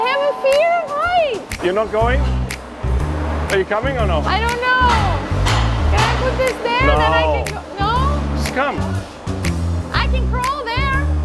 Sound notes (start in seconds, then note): 5.2 metal clanging; 8.8 relaxed jazz music